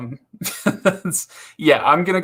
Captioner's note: laughs